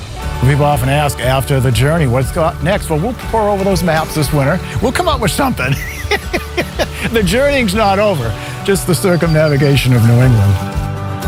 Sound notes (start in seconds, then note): 6.0 laughs